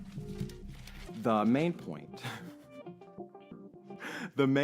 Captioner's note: giggles nervously